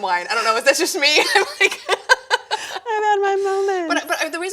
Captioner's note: laughing